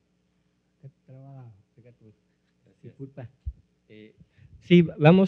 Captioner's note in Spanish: Expositor habla en lengua indígena